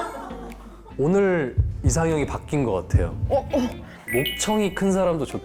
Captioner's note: heartbeat sound